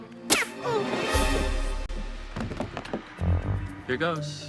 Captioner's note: dramatic music; gun fires; man groans